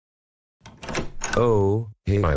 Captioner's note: door open